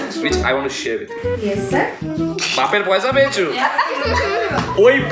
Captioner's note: in normal voice